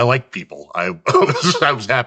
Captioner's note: laughs